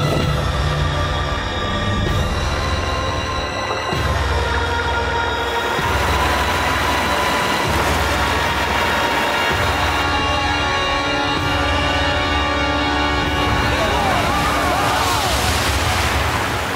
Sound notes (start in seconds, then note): 5.2 splashing; 10.1 dramatic music swells; 13.5 they exclaim